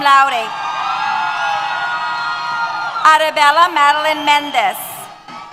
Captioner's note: cheers